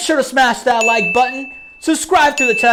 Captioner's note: tone chimes